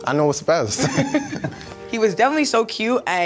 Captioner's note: chuckles